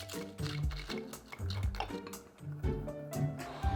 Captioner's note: whisking